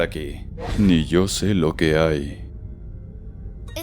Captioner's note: spooky voice